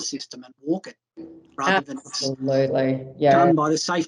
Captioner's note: audio dips